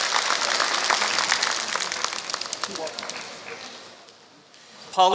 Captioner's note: applause